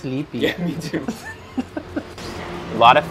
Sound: giggles

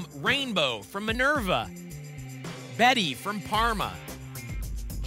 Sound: none

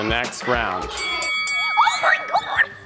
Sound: bell dinging

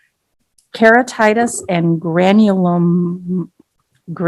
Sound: giggling

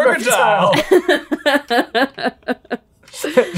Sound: laughing

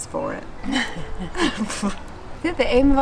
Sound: both laugh

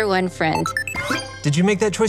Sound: scene beeps

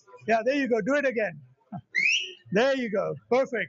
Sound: loud whistle

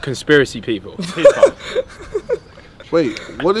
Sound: men laughing

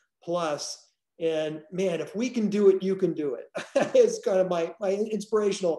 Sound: laughs

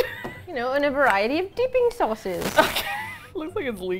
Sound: wheeze

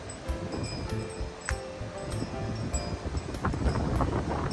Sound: wind chime jingling

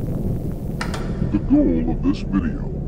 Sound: television static hissing; VHS player clicking

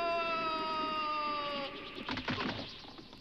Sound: air whooshes; tree cracks

